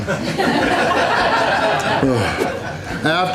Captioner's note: crowd laughter